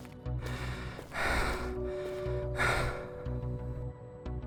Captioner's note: heavy breathing